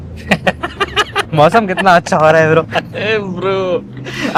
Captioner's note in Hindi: हंसी